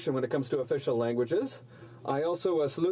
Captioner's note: speaking in french